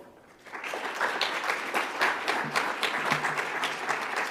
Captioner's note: audience applauds